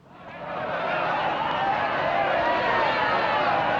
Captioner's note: crowd Clamoring